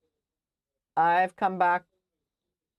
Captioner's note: speaking French